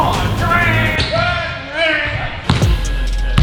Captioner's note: player makes buzzer sound; ball bounces